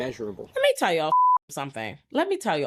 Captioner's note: beep